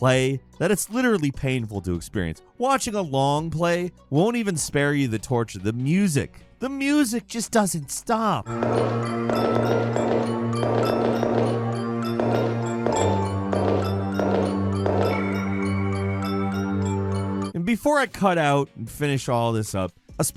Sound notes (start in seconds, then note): 8.4 tensed music; 8.6 footsteps pattering